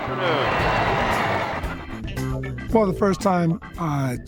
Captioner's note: crowd cheering